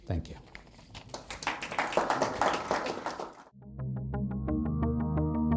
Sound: audience applauding

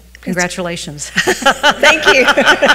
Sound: people laugh

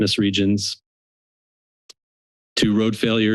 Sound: silence

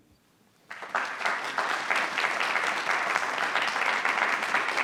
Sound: attendees applauding

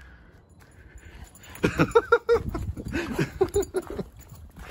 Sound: dad laughing

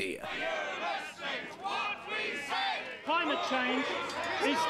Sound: angry chanting

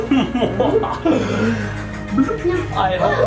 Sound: laughs; rainbow ghosts growling

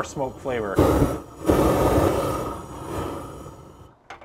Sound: flames sizzling

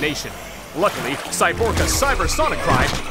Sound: piercing cry

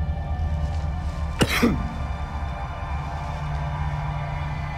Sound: coughing

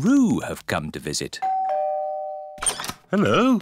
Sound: doorbell rings

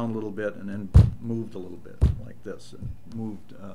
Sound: pounding sound

